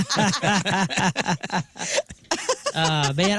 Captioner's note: laughter